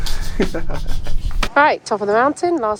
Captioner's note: both chuckle